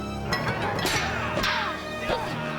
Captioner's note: metal clanging